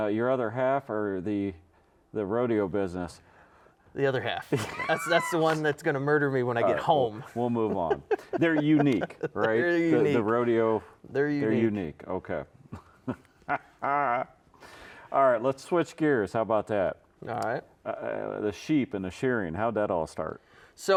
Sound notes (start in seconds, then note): 12.7 laughs